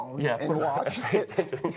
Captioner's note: laughter